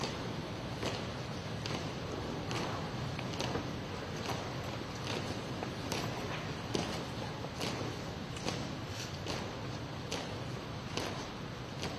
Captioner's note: foot steps